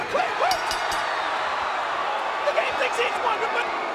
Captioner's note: bell ringing